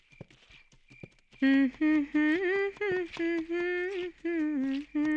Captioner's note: humming